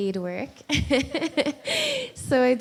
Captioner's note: laughs